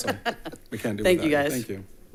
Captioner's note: laughing